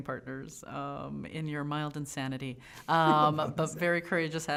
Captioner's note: laughing